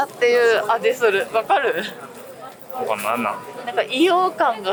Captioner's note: laughs; laughs